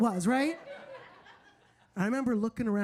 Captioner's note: audience laughing